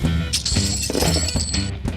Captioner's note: coins clanking